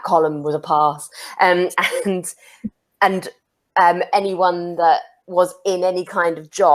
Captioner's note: chuckles